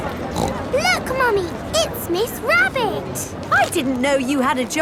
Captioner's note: snorts